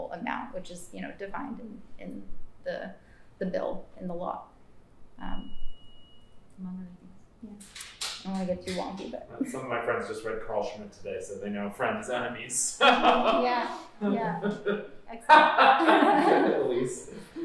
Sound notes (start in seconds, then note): 12.8 laughter; 15.2 laughs